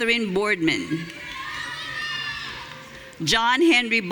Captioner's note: audience cheering